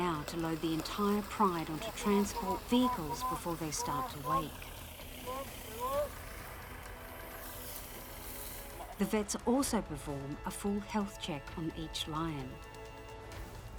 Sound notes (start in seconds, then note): 4.8 speaking foreign language; 13.5 dramatic music